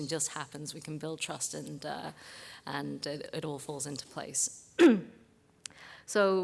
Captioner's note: cough